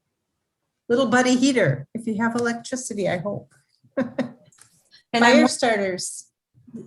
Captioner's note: laughs